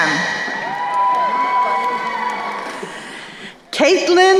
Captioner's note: crowd cheering